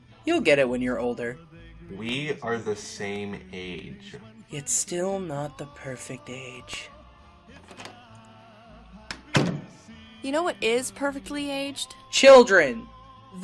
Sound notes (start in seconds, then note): 7.5 door opens quietly; 9.1 door closes